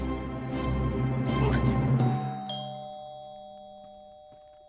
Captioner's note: doorbell rings